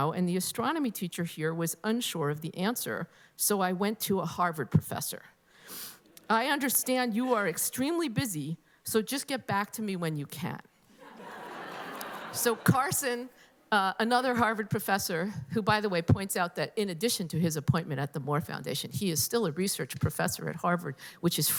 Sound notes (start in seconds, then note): 10.9 laughter